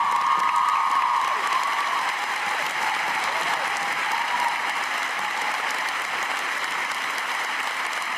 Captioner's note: cheers and applause